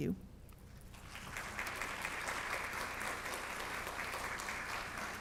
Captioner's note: audience applauds